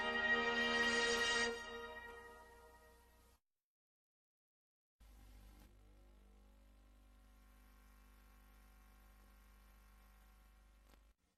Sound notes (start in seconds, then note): 5.0 VHS static